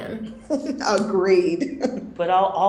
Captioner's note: laughing